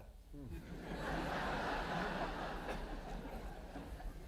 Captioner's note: audience applauding